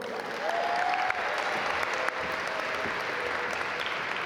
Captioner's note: audience applaud